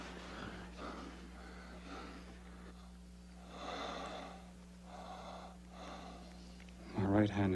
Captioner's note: Phineas sighs and moans